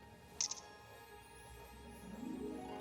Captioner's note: click